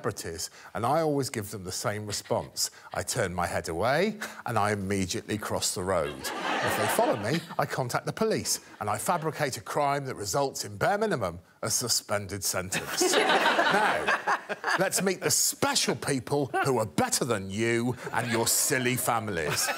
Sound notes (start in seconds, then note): 6.0 audience laughing; 12.7 guests and audience laughing; 17.9 guests and audience laughing